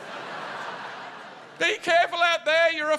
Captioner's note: laughter